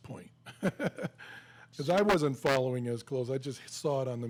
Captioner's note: laughs